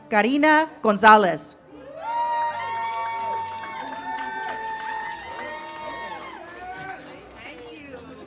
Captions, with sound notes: Karina Gonzalez. (audience cheers)